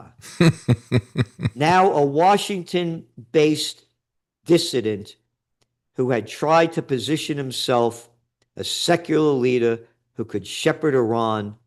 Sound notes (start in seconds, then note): 0.2 laughing